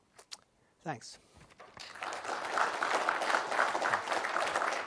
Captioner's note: applause